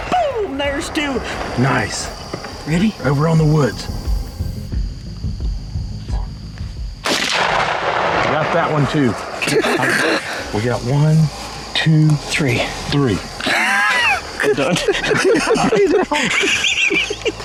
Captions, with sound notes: Boom, there's two! [gunshot] [laughing]